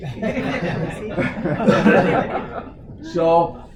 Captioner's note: laughter